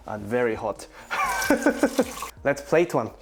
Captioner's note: laughs